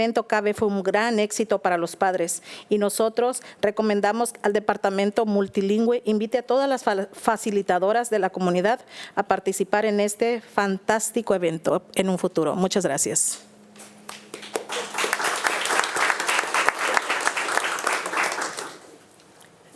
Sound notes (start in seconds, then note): 13.8 attendees applauding